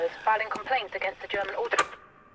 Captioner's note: radio switched off